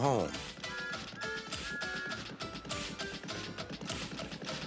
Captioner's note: whistles